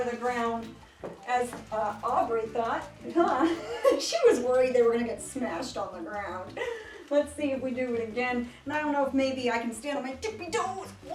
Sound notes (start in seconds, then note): 3.4 laughs